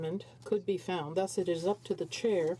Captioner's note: speaking French